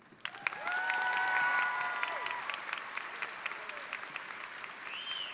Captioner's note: audience cheering and applauding